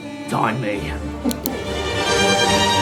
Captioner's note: click